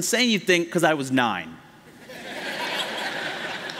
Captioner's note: laughter